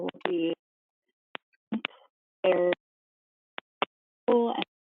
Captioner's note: audio cuts out